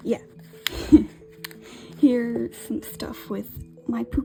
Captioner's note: laughs